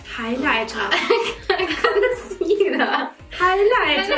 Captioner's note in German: lacht